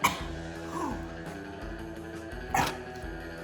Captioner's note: gagging